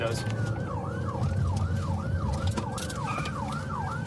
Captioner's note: siren wailing